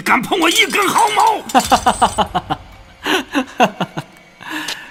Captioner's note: laughs